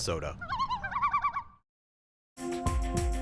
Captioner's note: loon calls